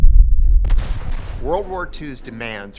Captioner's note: gunshots fired